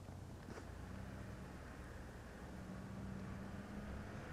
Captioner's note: engine rumbling